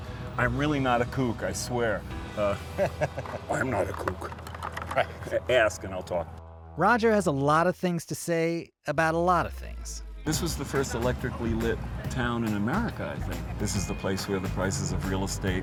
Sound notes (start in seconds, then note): 4.1 imitating Richard Nixon